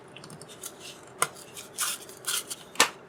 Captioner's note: tearing sounds